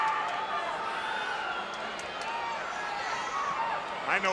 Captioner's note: crowd yelling